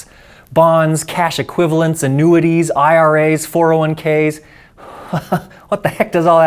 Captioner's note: chuckles